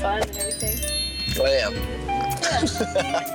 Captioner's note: laughing